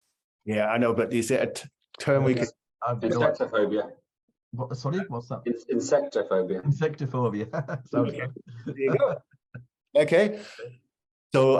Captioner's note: laughter